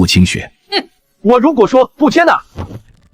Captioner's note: snorts